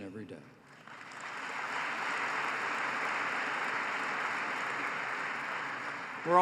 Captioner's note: applause